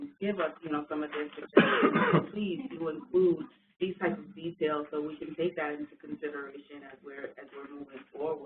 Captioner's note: coughing